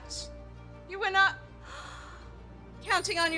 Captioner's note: gasps; bell rings